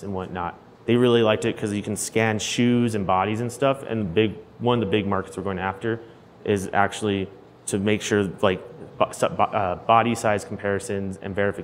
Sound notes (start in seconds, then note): none